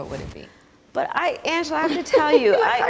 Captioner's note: all chuckling